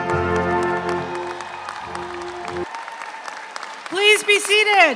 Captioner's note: audience applauds